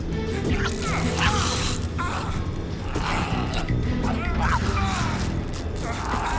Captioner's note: cougar growls; Rick yells; fabric ripping